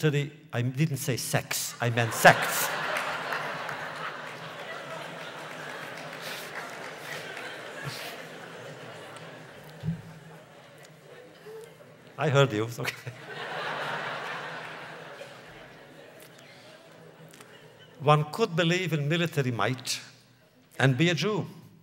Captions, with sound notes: I didn’t say sex. I meant sects. (laughter) (applause) I heard you, okay (laughs). (laughter) One could believe in military might, and be a Jew.